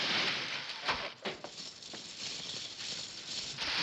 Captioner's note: cackling & coins clinking; coins clinking; cackling & coins clinking